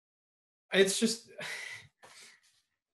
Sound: soft sigh

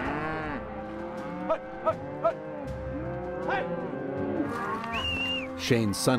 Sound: calling to cattle

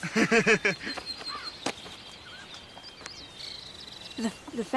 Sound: Eric laughs; insects chirping

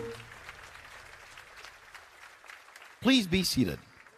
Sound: applause

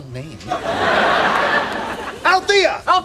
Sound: audience laughing

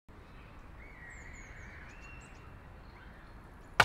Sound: birds chirping

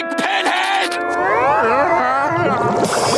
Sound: groaning

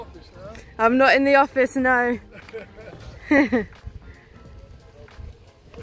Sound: laughs

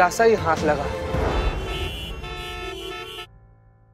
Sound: traffic noises

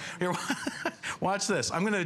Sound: laughter

